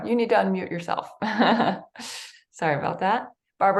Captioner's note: chuckles